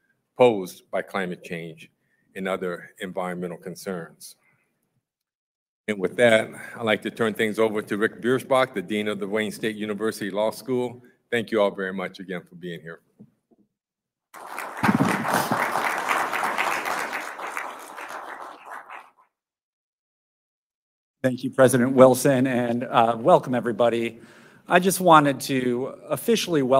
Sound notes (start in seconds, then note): 16.9 applause